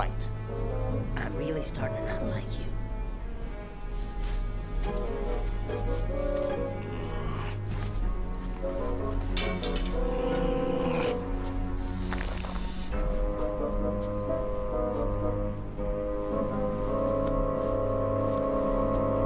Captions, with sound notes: - I'm really starting to not like you. - (growl) (metal clattering)